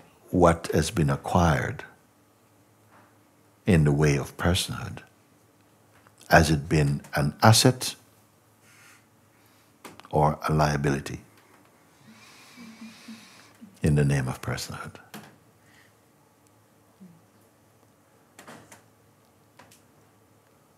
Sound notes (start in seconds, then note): 16.0 Stille